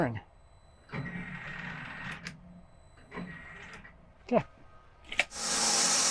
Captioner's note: machine whirring; saw whirring